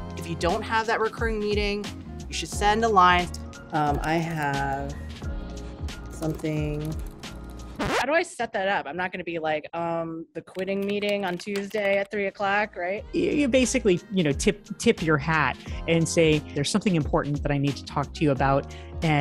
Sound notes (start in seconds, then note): 7.7 record scratch